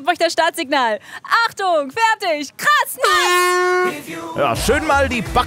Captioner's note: Startsignal